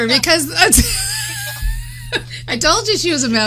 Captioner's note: laughing